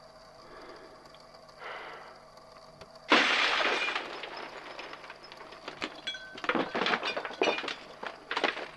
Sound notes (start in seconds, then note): 0.0 long silence; 3.1 glass shattering